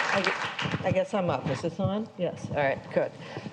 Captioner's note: applause